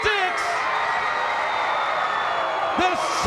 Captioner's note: crowd cheering